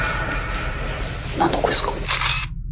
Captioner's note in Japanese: 霊安室から話し声